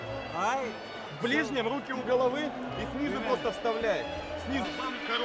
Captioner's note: speaking Ukrainian